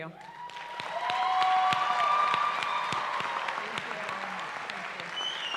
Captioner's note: cheering